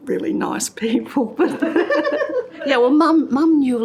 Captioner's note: laughter